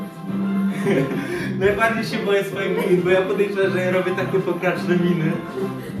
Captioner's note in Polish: śmiech